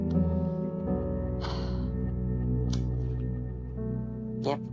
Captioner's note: patient sighs